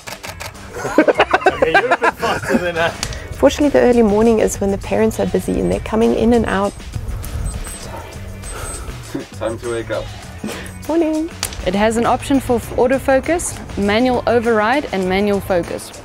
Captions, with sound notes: [Laughter] Fortunately, the early morning is when the parents are busy and they're coming in and out...sorry. [Watch starts beeping - Time to wake up?] It has an option for autofocus, manual override and manual focus.....